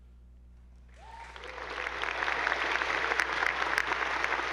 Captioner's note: attendees applauding